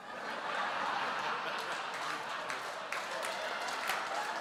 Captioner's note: audience laughs